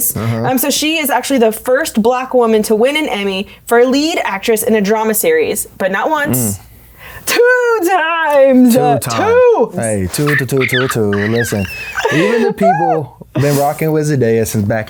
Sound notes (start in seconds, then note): 10.0 squealing